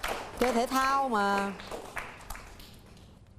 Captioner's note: applauding